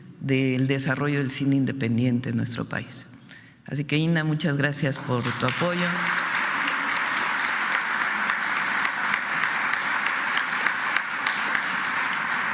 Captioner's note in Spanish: aplausos